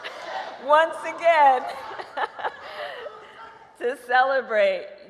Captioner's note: laughs